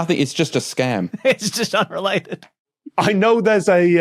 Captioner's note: giggles